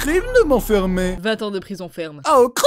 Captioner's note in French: Voix féminisée